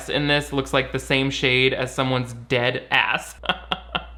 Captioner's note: laughs